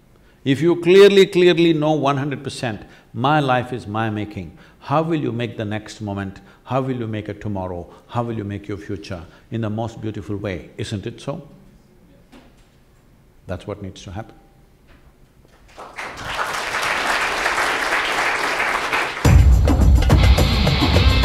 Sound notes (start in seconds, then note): 15.5 applause